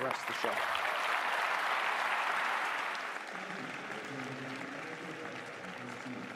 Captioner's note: applause